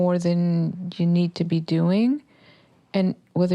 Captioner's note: none